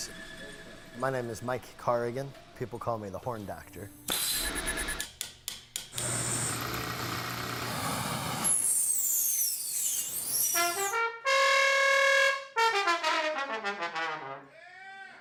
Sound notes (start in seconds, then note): 4.6 machinery humming; 10.6 trombone wailing